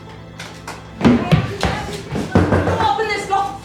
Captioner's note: Mrs. Dunbar banging on door; Mrs. Dunbar mumbling